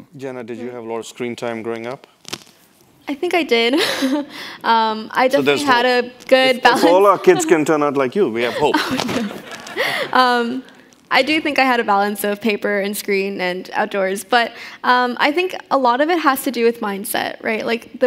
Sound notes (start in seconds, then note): 4.3 chuckles; 8.4 chuckles